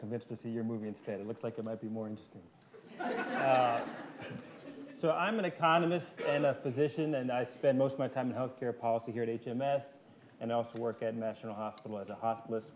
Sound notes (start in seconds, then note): 2.8 laughter